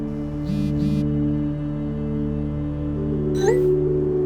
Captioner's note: phone vibrates